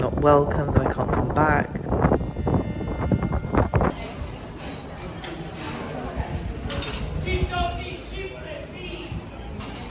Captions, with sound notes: welcome, that I can't come back. [wind] [cafe sounds]